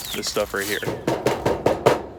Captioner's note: door knocking